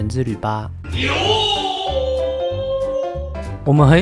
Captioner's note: insert Stereotypical Japan Sound Effect